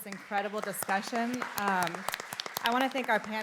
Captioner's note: applause